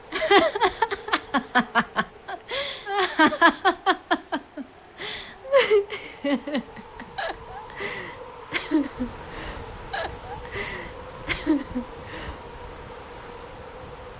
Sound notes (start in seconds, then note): 0.1 sobbing moves into loud laughter; 8.5 laughter continues; 8.5 wind howling